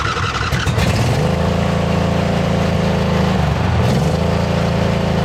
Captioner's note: engine Starts!